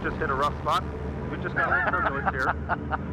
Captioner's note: laughs